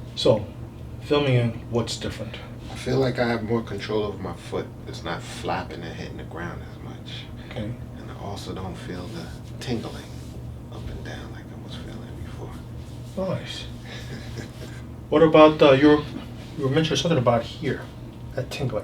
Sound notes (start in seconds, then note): 13.8 patient laughs